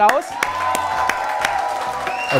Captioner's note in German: Jubel, Applaus